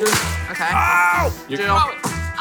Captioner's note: rope hitting plastic